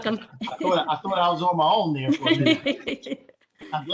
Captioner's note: laughter